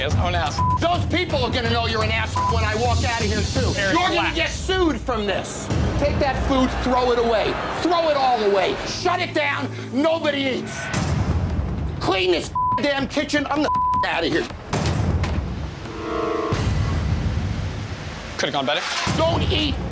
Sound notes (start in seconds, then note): 13.6 beeping; 13.6 beep